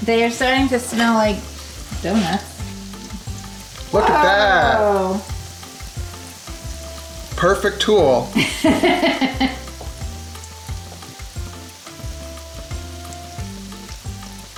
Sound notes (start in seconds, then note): 8.3 woman laughs